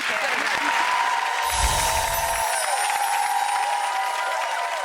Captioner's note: applause